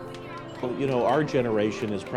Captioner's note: children chattering